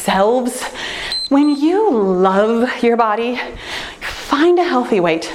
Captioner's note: timer beeps